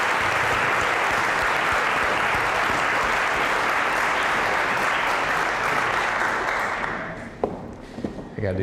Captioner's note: applause; applause, cheering